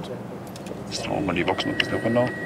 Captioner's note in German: Er murmelt